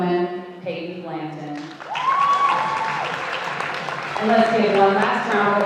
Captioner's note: audience applauding